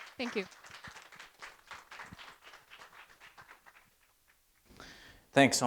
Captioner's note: attendees applauding